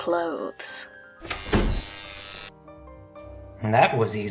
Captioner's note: door unlocks